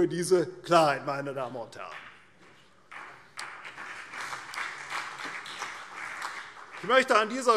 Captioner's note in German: Beifall CDU und BÜNDNIS 90/DIE GRÜNEN